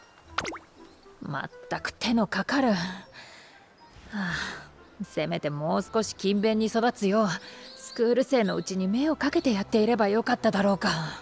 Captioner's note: sigh